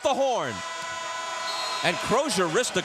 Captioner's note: horn blows